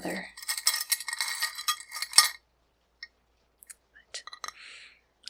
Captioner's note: rings clicking